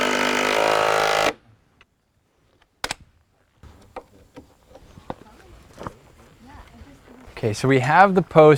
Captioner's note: drill whirring, snapping of shim, chisel tapping on wood, no additional audio